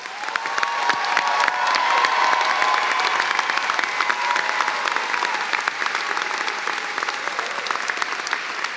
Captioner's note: cheers and applause